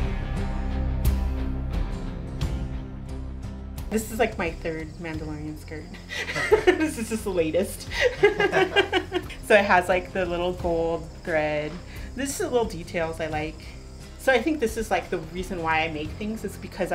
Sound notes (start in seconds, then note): 0.0 dramatic music; 8.6 laughing